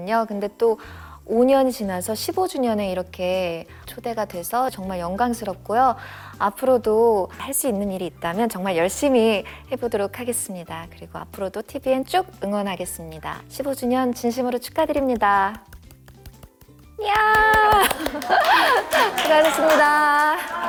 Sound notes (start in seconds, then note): 17.2 applause